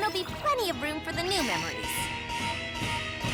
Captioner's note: alarm buzzes